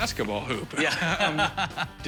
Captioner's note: laughs